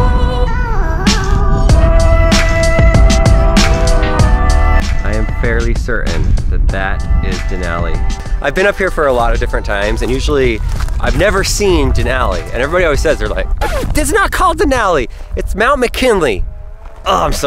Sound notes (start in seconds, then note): 0.2 upbeat soulful music; 13.8 record scratching